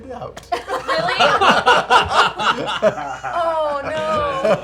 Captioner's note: laughter